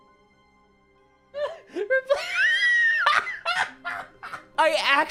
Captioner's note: laughing